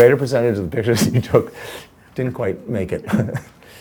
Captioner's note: laughs